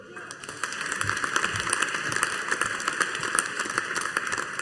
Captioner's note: audience applauding